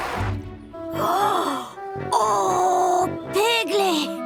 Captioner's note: gasps